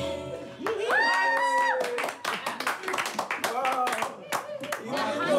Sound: clapping and applauding

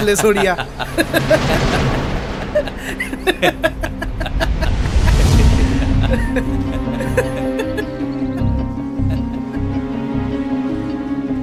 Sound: scene of mocking laughter

